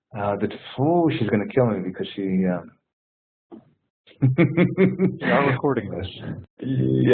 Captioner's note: laughs